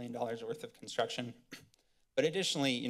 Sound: clears throat

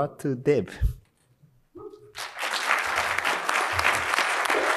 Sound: applause

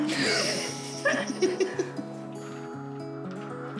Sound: both laugh

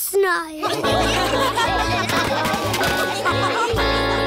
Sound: laughter

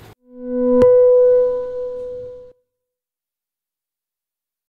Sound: ding

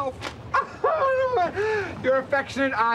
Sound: wailing

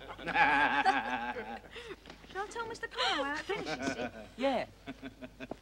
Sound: audience laughter

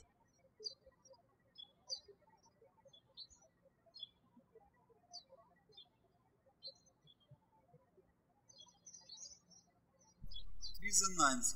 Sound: birds chirping

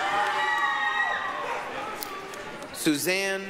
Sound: applause, cheering

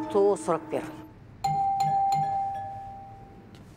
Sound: door bell rings

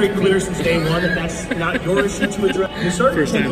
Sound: laughing

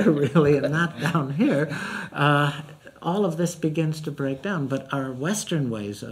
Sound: laughs

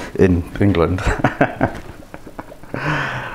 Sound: laughs

